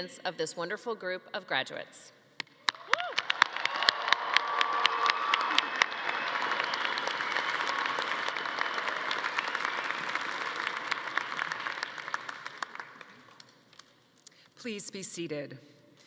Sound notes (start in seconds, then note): 3.1 audience applauding